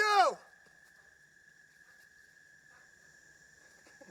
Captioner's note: crickets Chirping